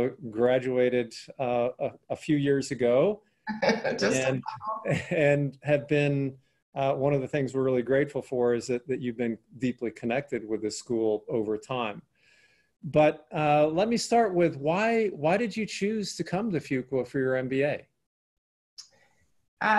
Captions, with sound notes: Graduated a few years ago. (laughing) - Just a couple. - And had been one of the things we're really grateful for is that you've been deeply connected with the school over time. But let me start with, why did you choose to come to Fuqua for your MBA?